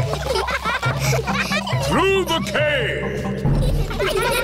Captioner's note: echoing